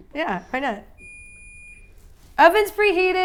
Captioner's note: oven beeping